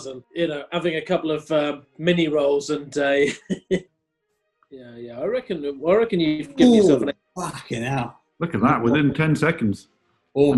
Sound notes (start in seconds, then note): 2.2 chuckling